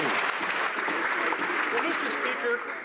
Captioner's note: some Applause